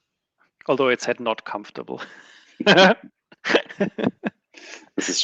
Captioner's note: laughs